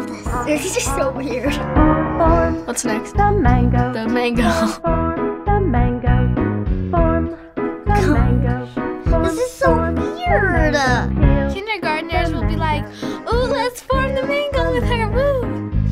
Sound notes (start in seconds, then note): 4.3 chuckles